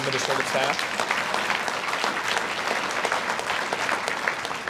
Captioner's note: audience applauds